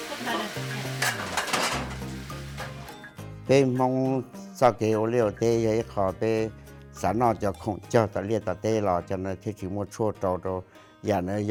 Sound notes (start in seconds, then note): 3.5 speaking Hmong